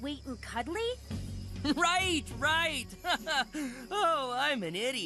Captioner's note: giggles